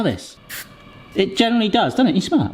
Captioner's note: deodorant spraying